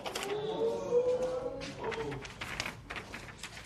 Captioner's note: spectators murmur